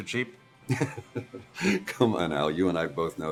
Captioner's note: Jimmy laughs